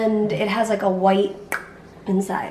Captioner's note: clicks tongue